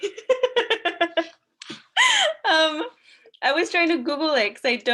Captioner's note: laughs